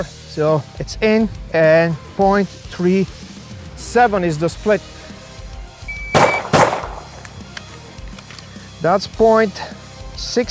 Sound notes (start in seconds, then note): 5.8 timer beeps; 6.1 gun bangs; 8.5 upbeat rock music continues